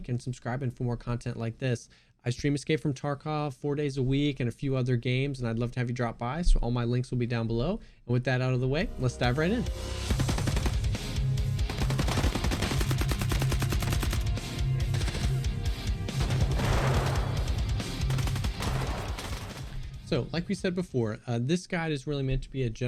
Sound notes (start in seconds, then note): 10.2 intense music; 11.6 machine gun firing